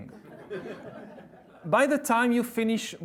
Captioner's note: audience laughs